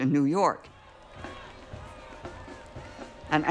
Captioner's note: crowd talking in background, drum beating